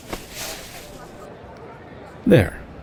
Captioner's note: sliding on jacket